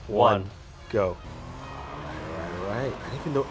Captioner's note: engines revving